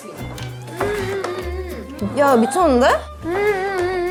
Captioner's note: slurp